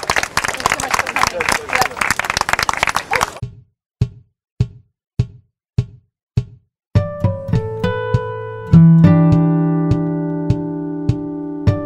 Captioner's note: applause